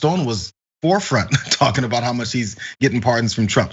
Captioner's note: laugh